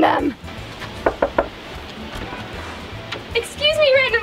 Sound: knocks on door

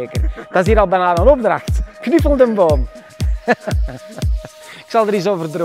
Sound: laughs

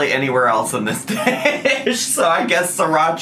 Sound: laughs

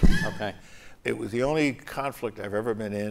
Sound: laughter

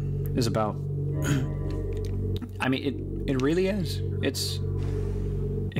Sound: clears throat

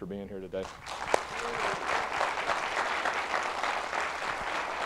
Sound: applause

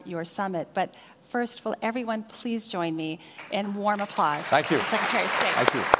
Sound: applause

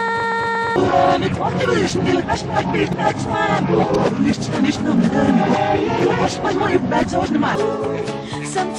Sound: more reversed demonic-sounding chanting

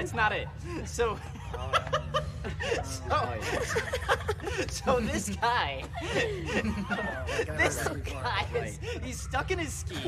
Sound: laughing

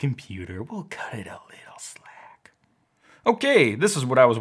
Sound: whispers

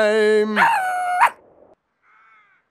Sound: howling and barking

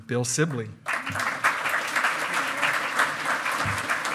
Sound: loud clapping

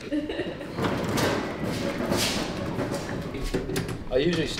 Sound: wheels rumble

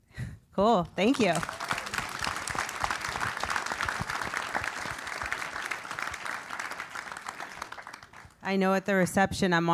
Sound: applause

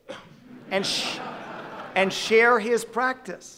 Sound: audience laughing

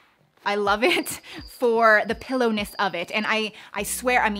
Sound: crickets chirping

